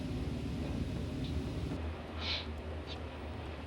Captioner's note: sniffling